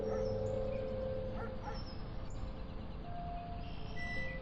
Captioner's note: birds twittering